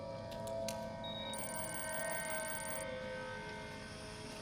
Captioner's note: device beeping